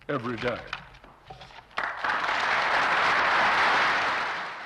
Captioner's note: applause